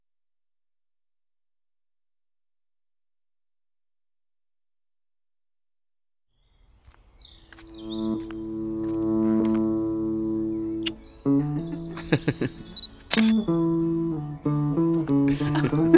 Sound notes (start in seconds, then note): 10.8 kiss